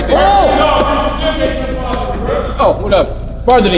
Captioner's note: people yelling